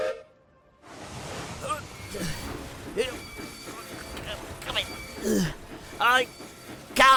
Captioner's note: gilbert whistles; gilbert strains and wheels screech